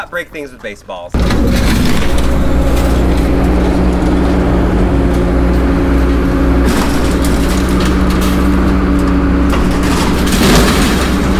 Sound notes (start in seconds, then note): 1.8 machine banging